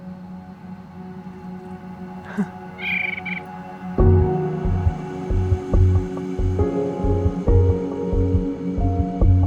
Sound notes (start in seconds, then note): 2.1 laughs and bird chirping; 3.9 upbeat music